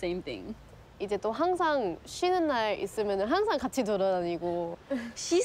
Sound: speaks in foreign language

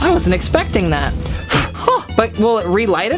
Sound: air blowing

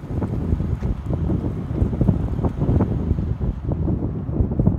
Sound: wind blowing

